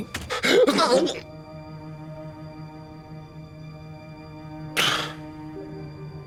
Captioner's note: melancholic music; Aiden gasping